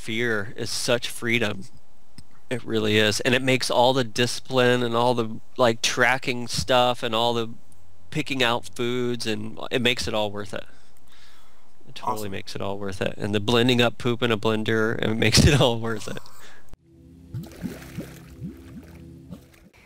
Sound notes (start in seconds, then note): 15.9 laughs; 16.9 music, bubbling SFX